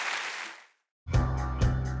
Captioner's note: applause